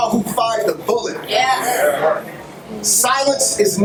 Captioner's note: crowd